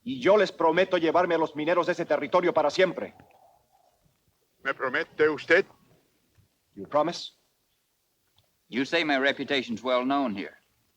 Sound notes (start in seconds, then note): 4.7 Victorio speaks Spanish